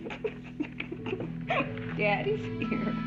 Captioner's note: chuckling